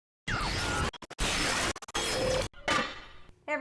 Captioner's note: glitches